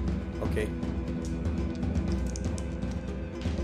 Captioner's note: dice sounds